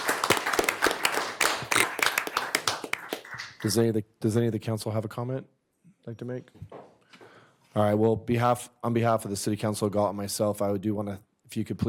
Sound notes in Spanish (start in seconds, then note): 2.8 aplausos